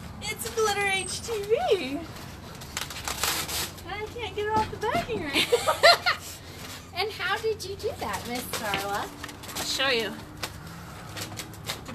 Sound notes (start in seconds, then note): 5.3 laughs